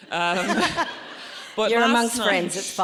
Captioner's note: audience laughs